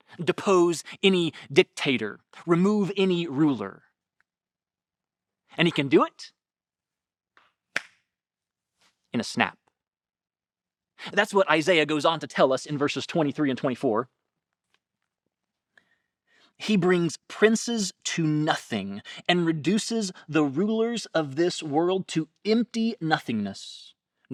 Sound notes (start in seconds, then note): 7.7 fingers snapping